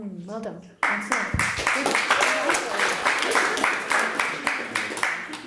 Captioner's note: audience applauds